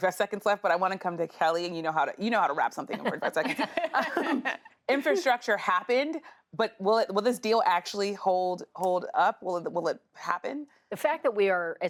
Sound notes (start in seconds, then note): 5.8 laughter